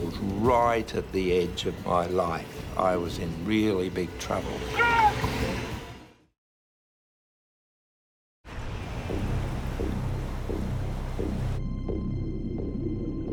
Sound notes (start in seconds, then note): 4.7 shouts; 9.7 pulsing